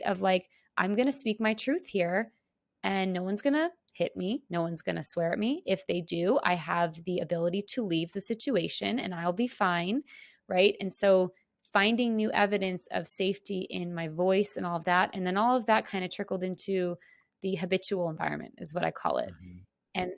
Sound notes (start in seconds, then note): none